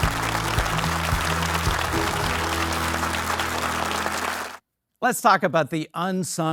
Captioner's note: upbeat music; audience clapping